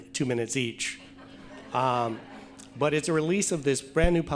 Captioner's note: audience laughing